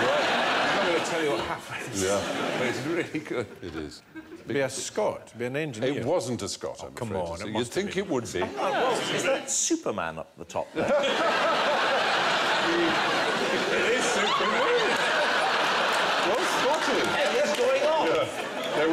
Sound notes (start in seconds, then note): 10.7 laughter